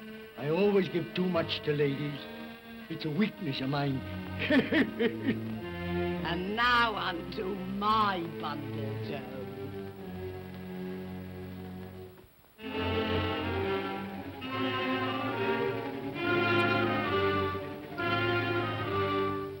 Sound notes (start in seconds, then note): 4.3 laughs; 12.6 tense ominous music